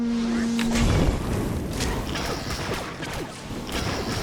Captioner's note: gun shots